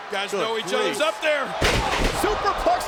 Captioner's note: wrestlers thudding